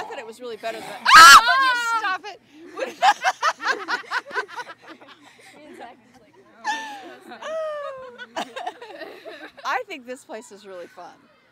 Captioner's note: screams!